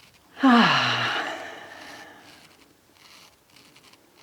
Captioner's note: breathing heavily